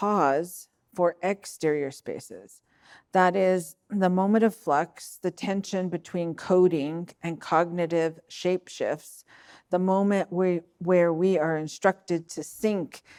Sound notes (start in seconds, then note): none